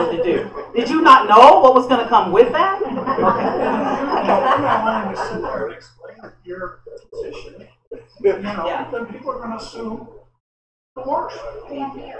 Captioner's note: laughter